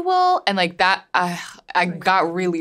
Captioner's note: groans